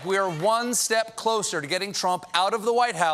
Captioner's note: cheers and applause